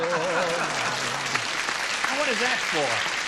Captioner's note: applause